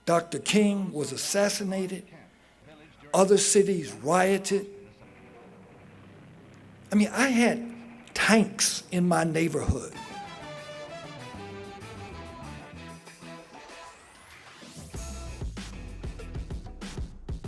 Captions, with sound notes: Dr. King was assassinated, other cities rioted. (helicopter engine roaring) I mean, I had tanks in my neighborhood. (dramatic orchestral music)